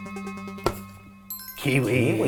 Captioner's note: light chime